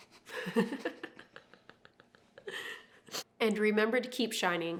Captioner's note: laughing